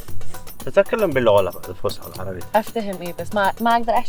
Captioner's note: Arabic